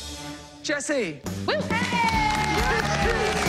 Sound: cheers and applause

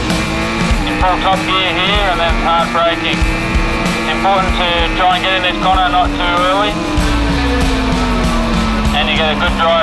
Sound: indistinct chatter

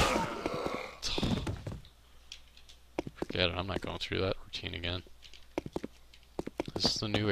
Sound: sighs

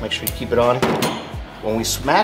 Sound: hammer set down

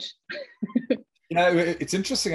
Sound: laughs

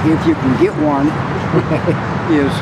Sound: chuckling

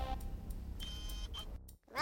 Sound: soft whirring

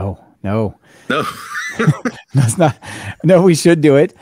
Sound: laughs

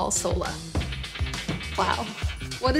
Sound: reverberating effect

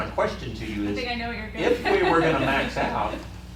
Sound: laughing

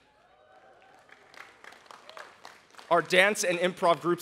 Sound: audience applauds

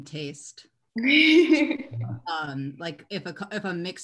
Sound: laughs

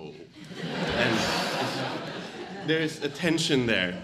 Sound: audience laughs

